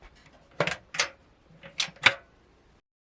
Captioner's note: loud Click- then another loud Click